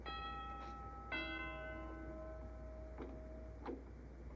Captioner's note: doorbell ringing